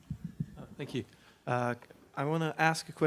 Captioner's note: voiceover